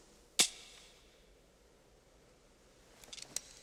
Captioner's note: click